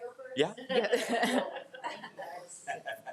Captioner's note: crowd laughing